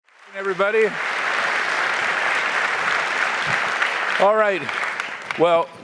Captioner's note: applause